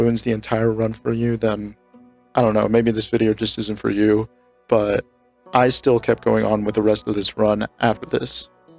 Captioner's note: none